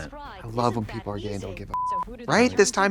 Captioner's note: beep